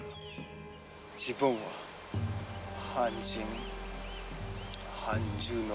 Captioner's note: speaking foreign language